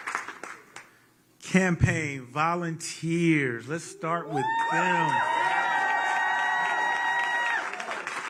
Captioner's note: applause